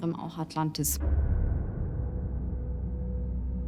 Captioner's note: echoing tone